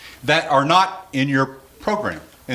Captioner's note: none